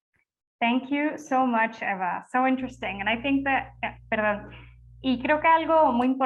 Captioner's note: switches to Spanish